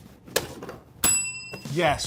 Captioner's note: bell dinging